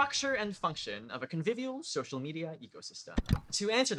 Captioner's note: click